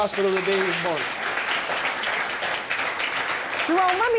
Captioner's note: audience applauds